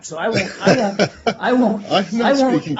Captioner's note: laughter